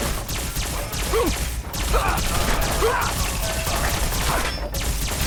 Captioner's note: player grunts; electrical gunshots firing; intense ambient music